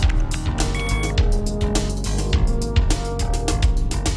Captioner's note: monitor beeps